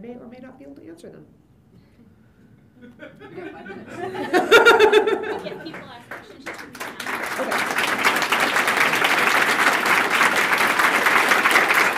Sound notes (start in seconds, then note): 4.2 laughter; 7.1 applause